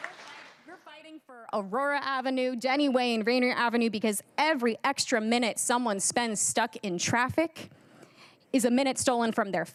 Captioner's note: cheers and applause